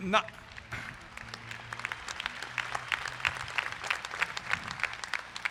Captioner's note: crowd applauds